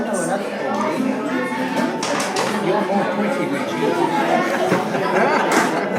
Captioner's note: room chatter